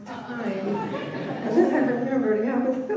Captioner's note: laughter